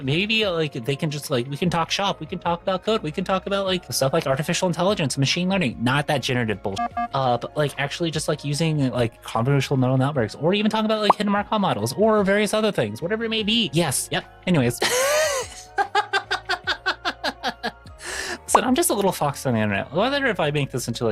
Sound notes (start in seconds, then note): 15.8 laughing